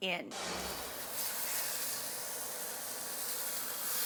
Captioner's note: pan sizzling